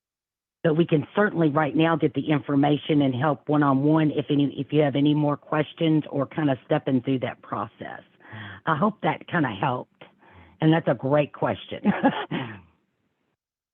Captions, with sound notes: So we can certainly right now, get the information and help one-on-one if you have any more questions or kind of stepping through that process. I hope that kind of helped. And that's a great question. [Laughing.]